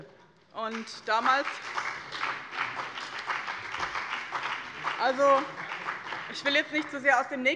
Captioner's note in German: Beifall bei dem BÜNDNIS 90/DIE GRÜNEN und der CDU